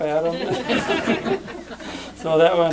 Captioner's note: laughter